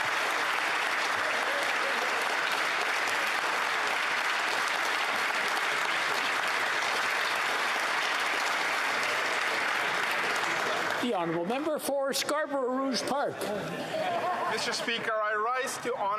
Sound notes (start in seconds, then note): 5.3 applause